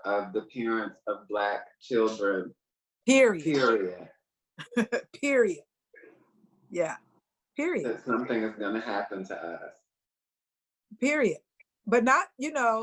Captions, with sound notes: of the parents of black children. - Period. - Period. - (chuckles) Period. Yeah, period. - That something is gonna happen to us. - Period, but not...